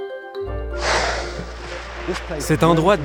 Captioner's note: whale exhales deeply